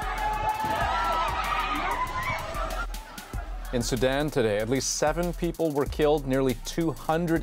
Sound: screams

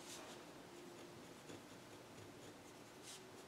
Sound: scribbling

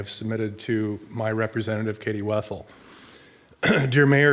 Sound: clears throat

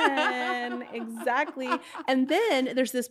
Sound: laughing; laughs

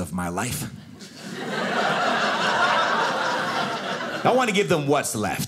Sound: audience laughing

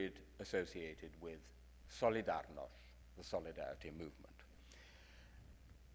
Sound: speaks in foreign language

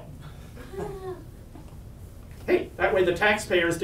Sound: audience laughs

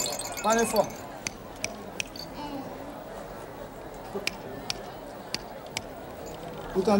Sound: shaking rattle; snapping fingers at each ear

